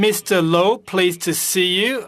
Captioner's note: speaking French